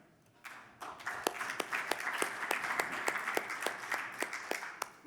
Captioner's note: audience applauding